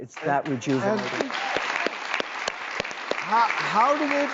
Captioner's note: audience clapping